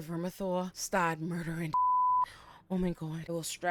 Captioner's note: beep